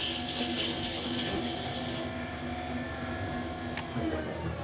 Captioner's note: machine whirring